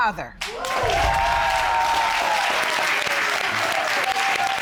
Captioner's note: applause and cheering